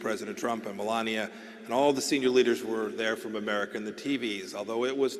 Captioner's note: none